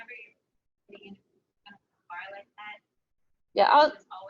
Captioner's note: audio drops